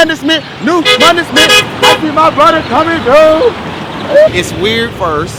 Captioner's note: rapping; car honks